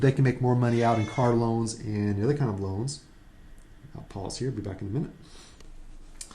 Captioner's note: meow